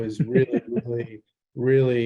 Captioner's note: laughs